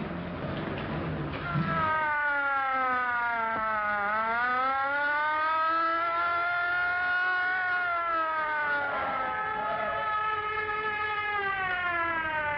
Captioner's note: police car sirens